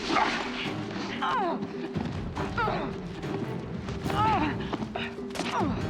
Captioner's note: eileen groaning